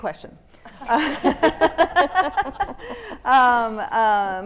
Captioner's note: panelists laughing